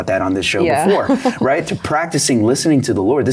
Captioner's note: laughs